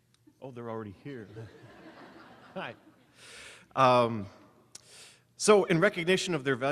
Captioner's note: audience laughing